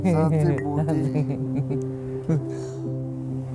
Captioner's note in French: rires